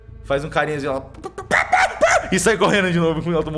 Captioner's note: clucks loudly